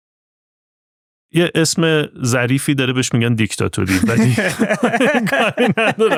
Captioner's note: laughs